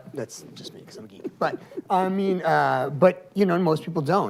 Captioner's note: laughs